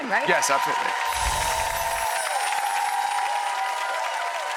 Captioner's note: audience cheering; bells tinkling